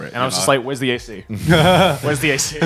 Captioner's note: chuckling